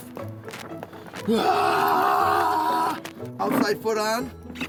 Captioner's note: yells